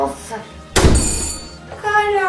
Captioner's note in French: porte qui claque et sonnette